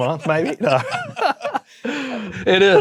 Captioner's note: laughing